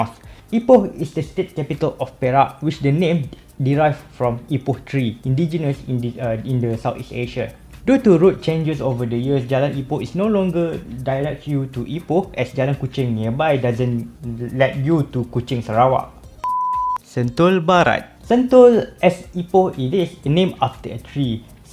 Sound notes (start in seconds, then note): 16.4 beep